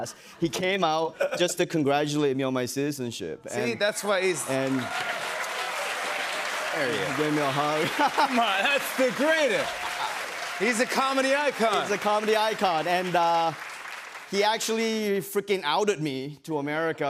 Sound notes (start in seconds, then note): 5.9 cheers and applause